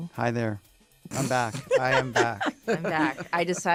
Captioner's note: laugh